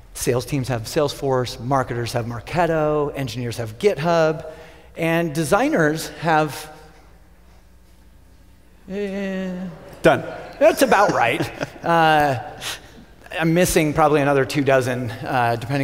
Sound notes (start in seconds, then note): 10.2 crowd laughter